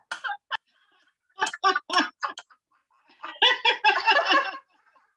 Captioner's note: laughter